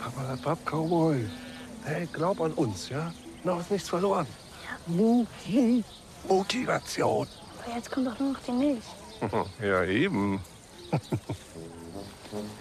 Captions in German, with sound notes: Papperlapapp, Cowboy. Hey, glaub an uns, ja? Noch ist nichts verloren. Ja. - Muh-ti ... Muhtivation. Aber jetzt kommt doch nur noch die Milch. (schelmisch kichernd:) Ja, eben.